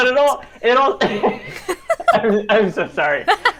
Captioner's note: both laugh